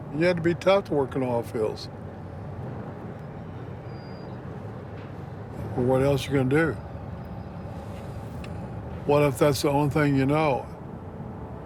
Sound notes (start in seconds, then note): 4.0 low machine whirring